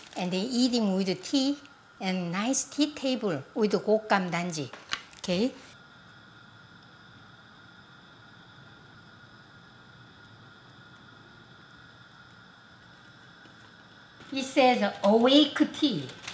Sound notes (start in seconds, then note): none